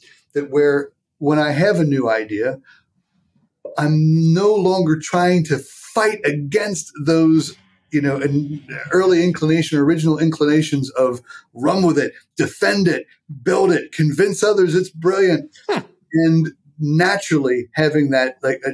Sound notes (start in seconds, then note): 16.2 laughing